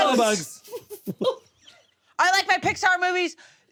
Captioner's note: all laugh